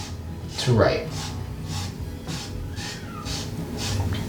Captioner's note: scratchy noise of flour rubbing